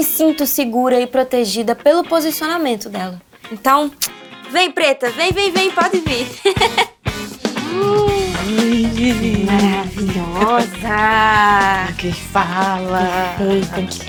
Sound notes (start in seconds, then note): 6.2 giggles; 7.4 sighs; 12.0 laughs